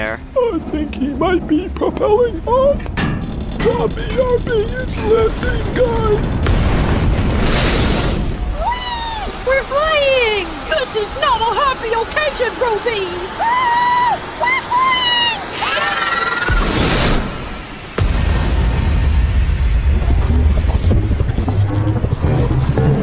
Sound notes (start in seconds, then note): 16.2 scream; 16.5 crash; 19.3 Stretching sounds as Four moves into the Sun